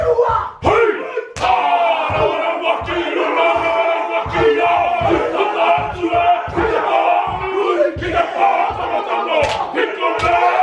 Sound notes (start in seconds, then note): 1.4 hands smacking; 1.8 chanting continues